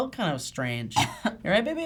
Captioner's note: cough